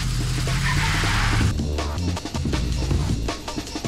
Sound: van pulls away

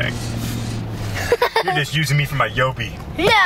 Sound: laughing

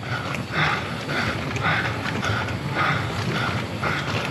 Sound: panting

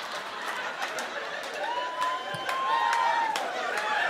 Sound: laughter and cheering

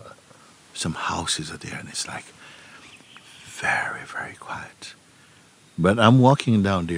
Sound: whispers

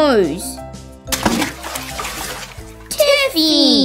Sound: splash!

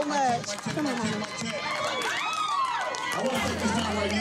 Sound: cheering

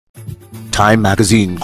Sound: radio Announcer

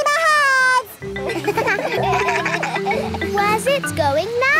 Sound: kids laugh

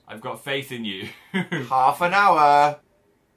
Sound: laughs

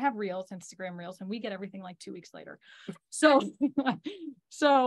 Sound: chuckles

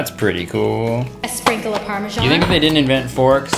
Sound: plastic popping

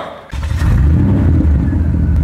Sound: engine running

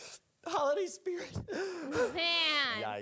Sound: Scrags weeping

